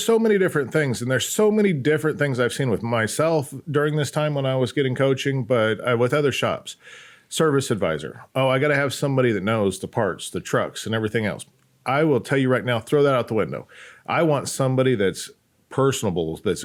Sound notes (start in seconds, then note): none